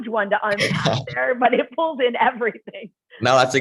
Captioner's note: laughter